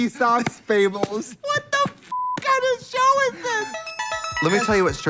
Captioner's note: beep